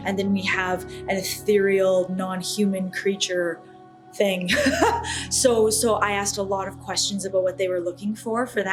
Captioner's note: laughs